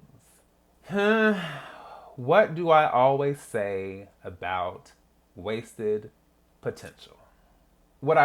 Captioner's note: sigh